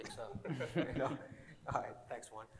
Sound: laughing

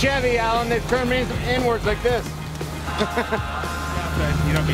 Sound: laughs

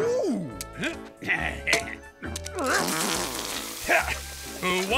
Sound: grunting

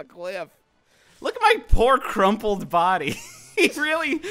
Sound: laughs

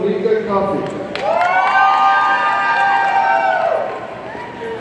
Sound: audience cheering

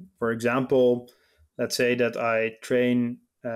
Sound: none

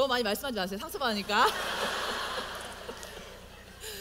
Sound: audience : Laugh

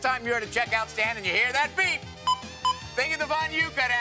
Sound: scanner beeps

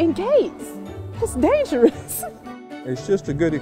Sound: giggles

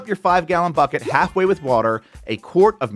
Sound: graphics popping

